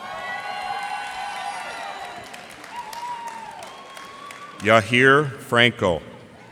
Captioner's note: cheers and applause